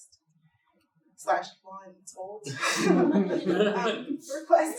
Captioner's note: laughter